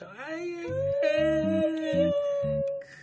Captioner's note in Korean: 귀여워하는 소리